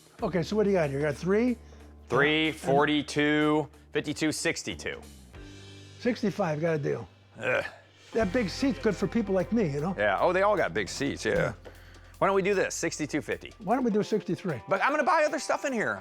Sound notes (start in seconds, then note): none